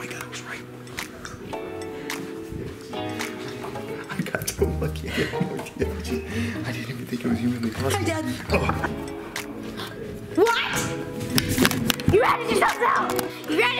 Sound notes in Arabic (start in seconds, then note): 5.5 مورمورينغ